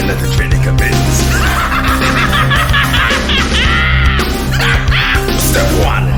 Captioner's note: laughs catily